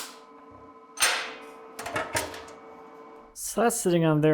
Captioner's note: metal clinking